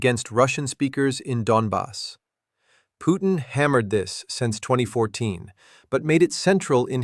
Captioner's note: sarcastic